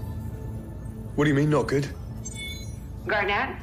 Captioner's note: chiming